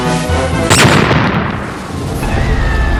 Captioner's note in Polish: wybuch